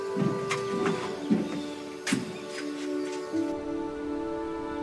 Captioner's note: birds chirping